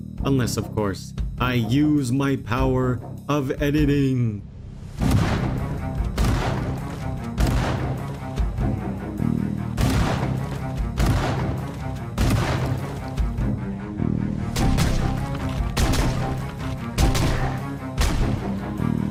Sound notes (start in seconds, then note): none